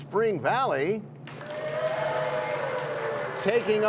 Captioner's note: cheers and applause